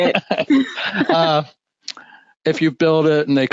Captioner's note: laughing